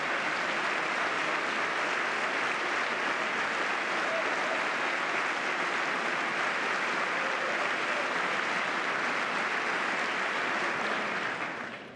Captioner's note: applause